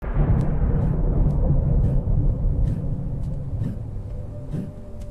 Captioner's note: fire crackling